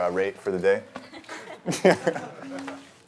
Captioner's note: laughter